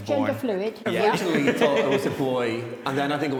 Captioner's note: both laughing